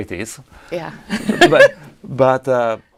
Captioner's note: laughs